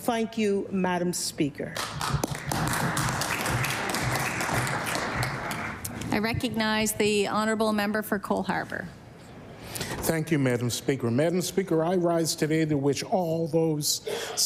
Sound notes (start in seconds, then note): 4.0 applause